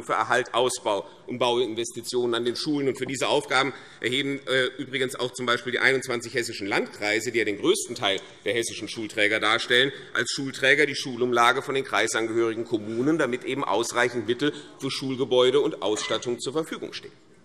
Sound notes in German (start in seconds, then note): none